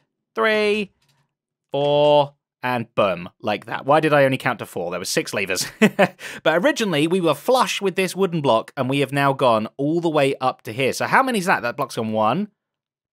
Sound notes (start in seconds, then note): 6.1 laughs